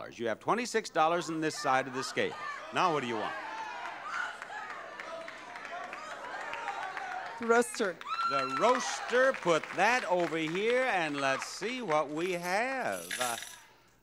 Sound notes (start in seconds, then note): 4.1 crowd shouting